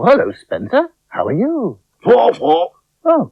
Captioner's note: Spencer Talks In Spider Language